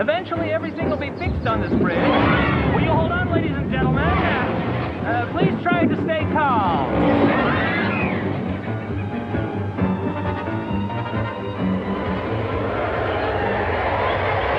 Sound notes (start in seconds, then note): 1.7 people screaming; 7.4 dramatic music; 10.6 music intensifies